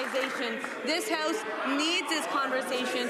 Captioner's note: applause